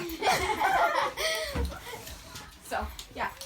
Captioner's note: everyone laughs